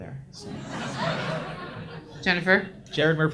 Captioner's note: audience laughs